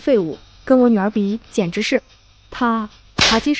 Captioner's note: slap!